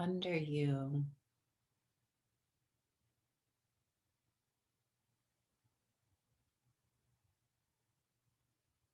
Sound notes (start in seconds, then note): 3.8 silence